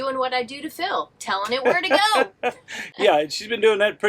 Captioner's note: laughs